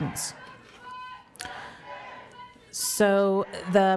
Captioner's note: crowd